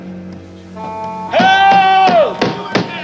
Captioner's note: pounding on door